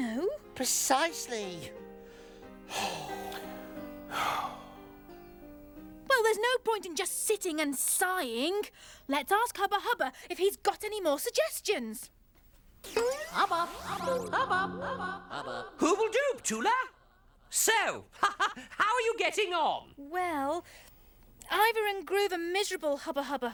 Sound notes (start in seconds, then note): 2.6 sighs; 13.4 echoing